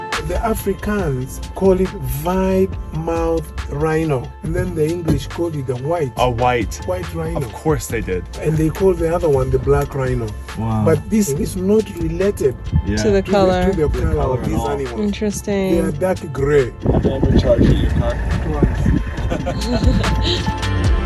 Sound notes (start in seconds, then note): 19.1 laughing nervously; 19.2 laughing amusingly